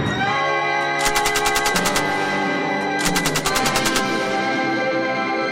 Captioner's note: gunfire rattling